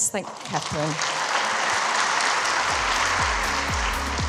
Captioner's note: applause